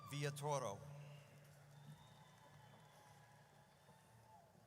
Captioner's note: audience cheers